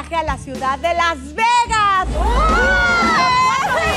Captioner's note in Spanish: Ovación